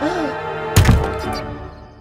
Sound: gasps; slam

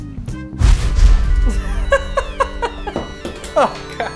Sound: laughs

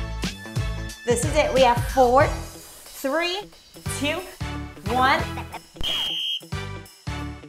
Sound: whistle blows

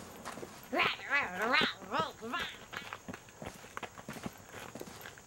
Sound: little girl growling

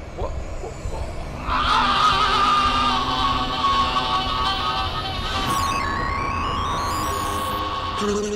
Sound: screams

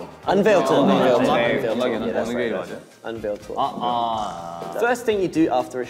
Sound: all speaking in Korean

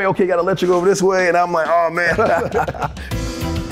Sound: both laugh; upbeat music

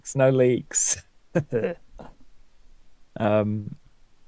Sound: laughs

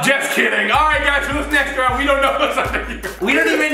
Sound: laughing

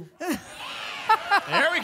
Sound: laughter and cheering

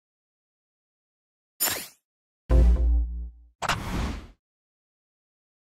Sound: smash intro sound

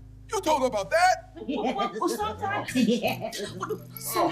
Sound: laughing

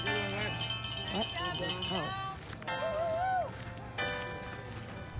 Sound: people cheering

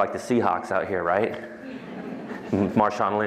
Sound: laughter

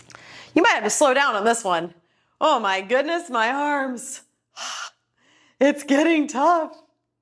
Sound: exhales

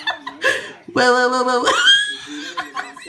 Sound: laugh; laught

